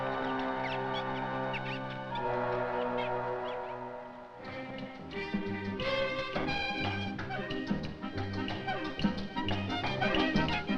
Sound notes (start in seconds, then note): 0.2 suspenseful music; 1.5 monkeys squeaking; 4.3 Latin jazz music